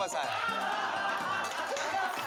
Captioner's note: laughter